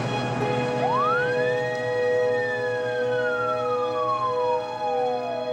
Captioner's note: police siren blaring